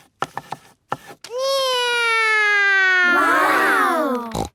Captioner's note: imitating flying plane; snorting